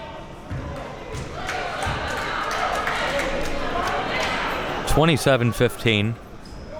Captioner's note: spectators chattering and applauding